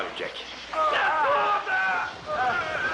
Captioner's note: man Yelling